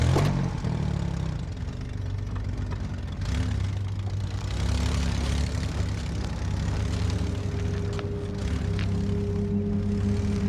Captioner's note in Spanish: Ruido del vehículo